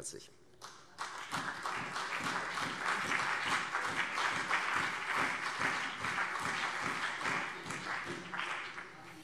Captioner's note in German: Beifall CDU und BÜNDNIS 90/DIE GRÜNEN